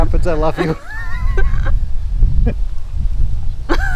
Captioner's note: laughing